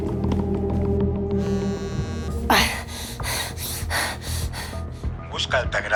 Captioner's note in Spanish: Vibra el celular